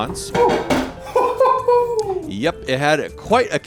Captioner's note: instructor laughs